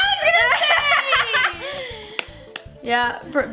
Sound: laughing together

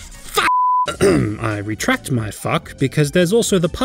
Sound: clears throat

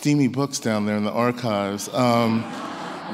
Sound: laughs

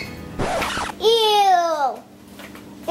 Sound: record needle scratch

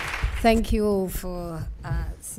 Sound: applause

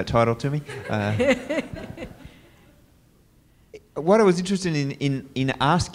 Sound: laugh

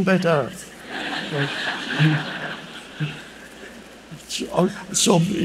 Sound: audience laughing

